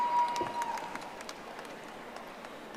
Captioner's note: audience applauding